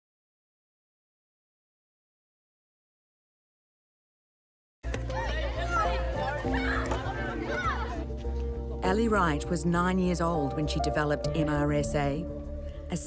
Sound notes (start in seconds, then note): 4.9 children chatter